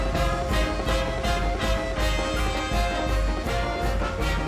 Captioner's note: audience clapping and cheering